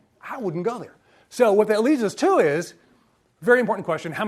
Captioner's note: none